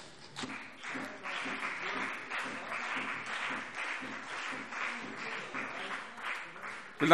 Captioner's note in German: Beifall